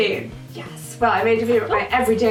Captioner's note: whispers